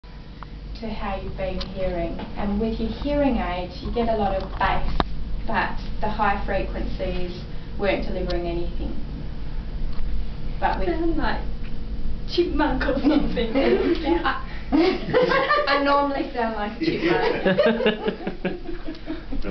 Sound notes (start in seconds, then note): 14.7 mum and dad laugh; 14.7 laugh; 16.8 laughs